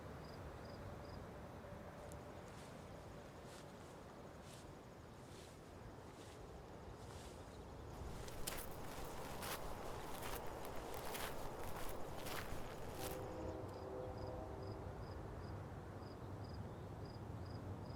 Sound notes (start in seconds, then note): 12.9 distant train horn blares